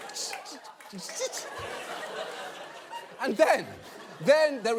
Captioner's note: audience applauding